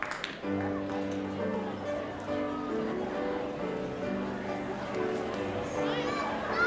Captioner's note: audience chattering; light piano music